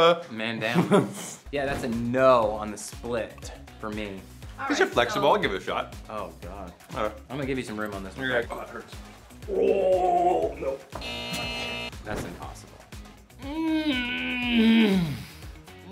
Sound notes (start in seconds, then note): 11.0 buzzer blares; 13.4 groaning